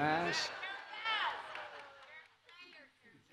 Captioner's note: laughter; applause